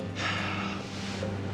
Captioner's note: sighing